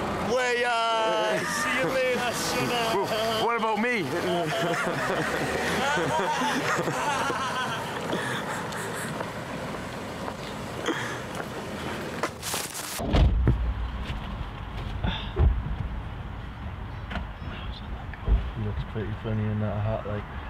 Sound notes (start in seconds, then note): 4.0 laughs